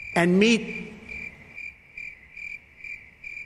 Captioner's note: crickets